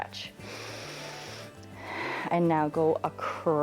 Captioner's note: inhales and exhales